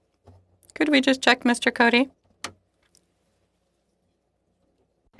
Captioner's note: speaking French